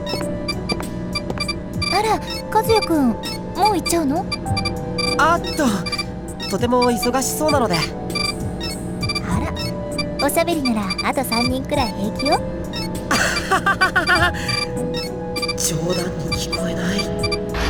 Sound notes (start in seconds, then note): 13.1 awkward laugh